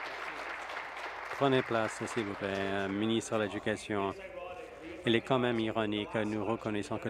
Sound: applause

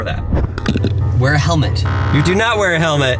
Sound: buzzer sound

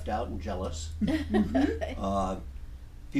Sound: laughing

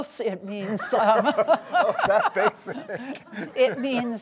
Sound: laughs

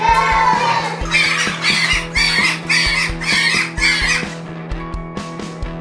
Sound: kids chanting, sped up

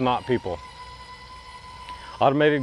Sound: gates buzzing

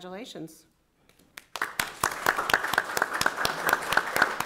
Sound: applause

